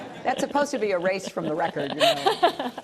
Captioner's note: laughter